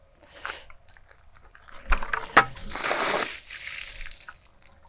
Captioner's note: water sloshing